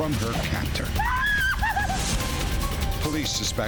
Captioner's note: screams